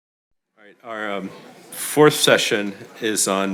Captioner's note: audience chattering